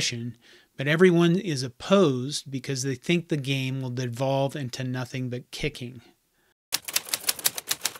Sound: typing

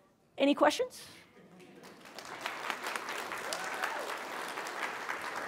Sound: applause

